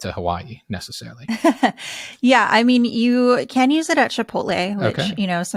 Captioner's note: laughs